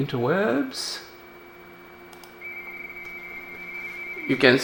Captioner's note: RTTY Baudot tones